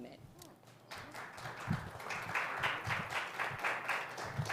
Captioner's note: applause